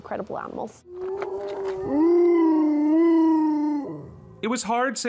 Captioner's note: howls